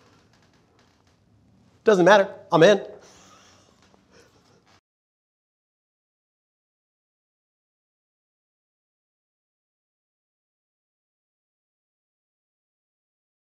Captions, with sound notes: Doesn't matter. I'm in. (laughs)